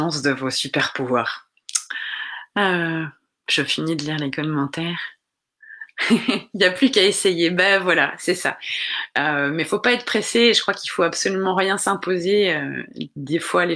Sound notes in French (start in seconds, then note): 6.0 rire